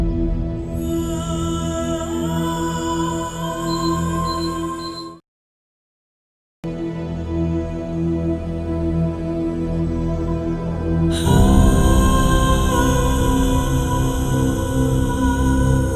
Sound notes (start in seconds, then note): 3.6 beeping; 11.3 singing